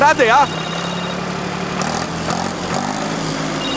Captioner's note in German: Handyklingeln